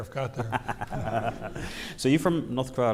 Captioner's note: laughing